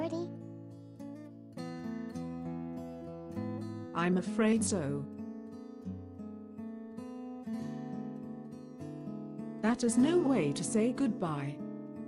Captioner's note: speaking to herself